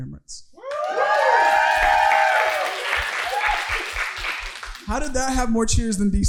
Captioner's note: audience cheering